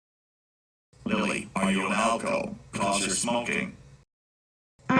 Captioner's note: echoing